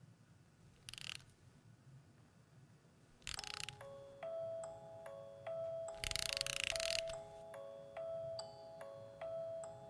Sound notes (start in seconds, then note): 0.5 winder clicking; 3.3 soft jingle